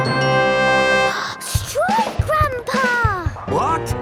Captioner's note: gasps